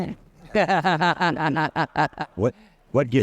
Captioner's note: laughter